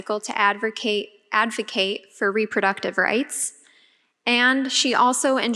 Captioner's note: none